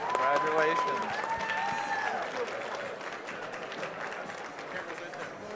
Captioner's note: applause